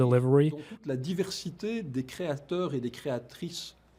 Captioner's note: French